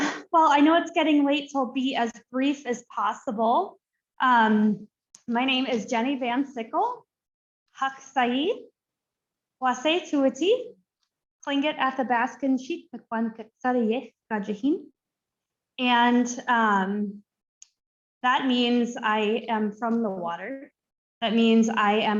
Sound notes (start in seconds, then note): 7.6 foreign Language Spoken